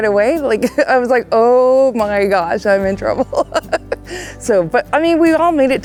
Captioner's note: laughs